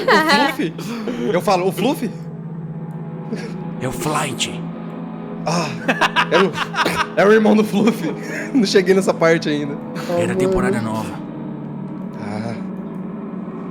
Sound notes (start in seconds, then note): 5.5 laughs